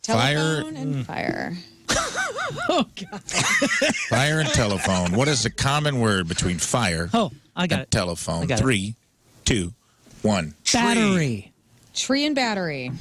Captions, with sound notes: Telephone and fire. (Laughing) Fire and telephone. What is the common word between fire and telephone? Three, two, one. Battery. Tree and battery.